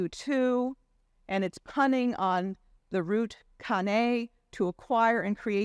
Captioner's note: speaking in Hebrew language